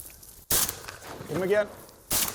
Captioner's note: gun fires